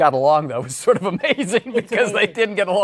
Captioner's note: laughing